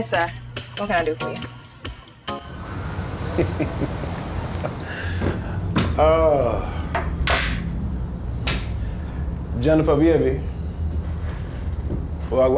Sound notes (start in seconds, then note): 3.2 Mook chuckles